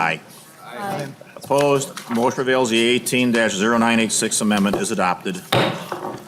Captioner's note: chorus of ayes